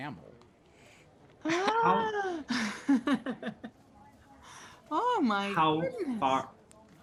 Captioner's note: laughs